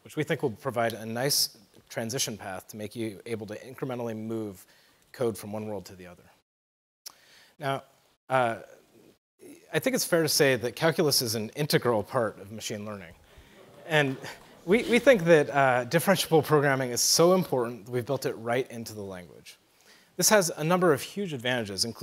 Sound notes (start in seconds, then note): 13.4 laughter